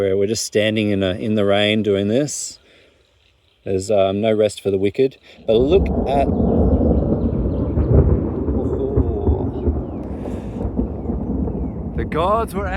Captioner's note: thunder roars